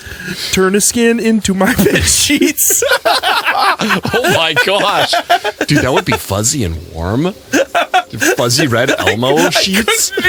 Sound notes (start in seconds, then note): 1.7 starts losing control laughing